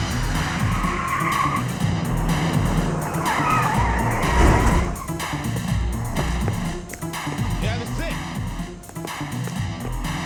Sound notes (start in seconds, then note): 0.0 car screeches; 0.1 suspenseful orchestral music